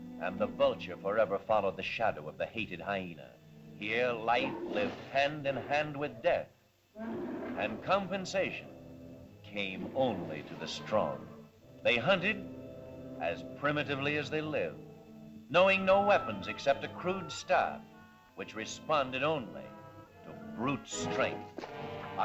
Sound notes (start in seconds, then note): 7.0 mastodon bellows